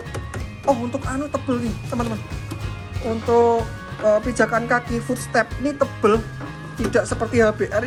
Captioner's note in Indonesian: foot step